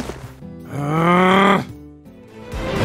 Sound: groans x2

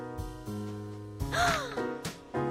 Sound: gasp

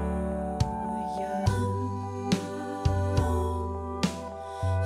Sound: playback of recorded ♪ Hmmmmm, muummmm

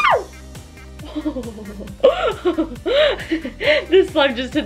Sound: laughs

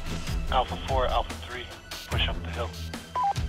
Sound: radio

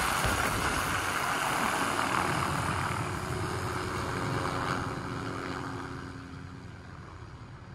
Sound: wind subsides, helicopter blades become softer and fade into the distance

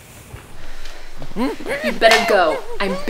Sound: muffled screams

